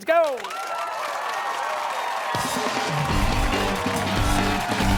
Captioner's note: cheers and applause